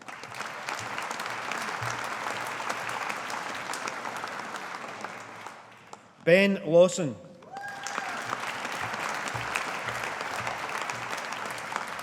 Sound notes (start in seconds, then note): 0.0 audience applauding; 7.4 audience applauding